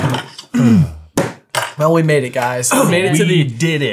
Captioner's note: screens clattering; hand slamming